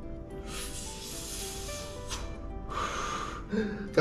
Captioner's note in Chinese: 倒抽一口氣